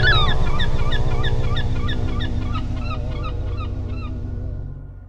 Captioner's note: gulls squawking